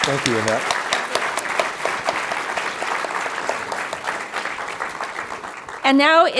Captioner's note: applause